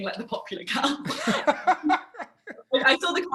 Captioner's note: laughs; laughter